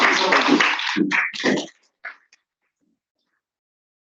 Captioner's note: applause